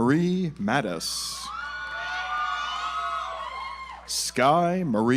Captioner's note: audience applauds